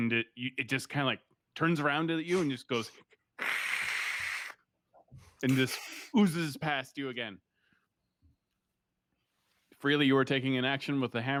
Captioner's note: hiss sound